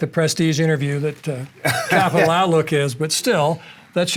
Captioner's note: laughing